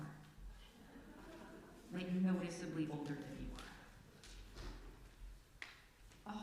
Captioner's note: surprised laughter